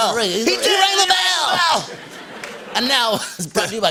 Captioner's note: laughter